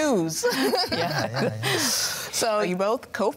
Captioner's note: joyful laughing